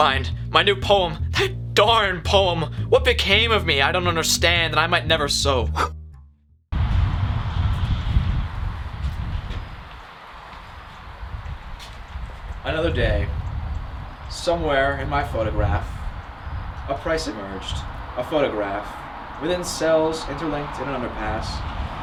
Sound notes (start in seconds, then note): 5.5 candle is blown out